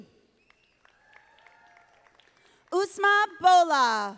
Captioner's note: audience applauding